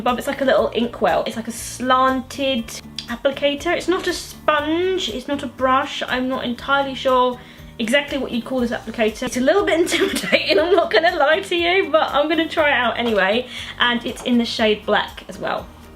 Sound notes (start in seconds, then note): 9.9 laughs